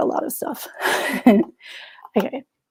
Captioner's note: chuckles